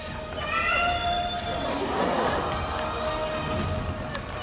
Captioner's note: laughter